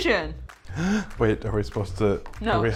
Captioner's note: gasps